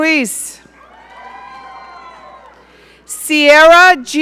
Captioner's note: audience cheering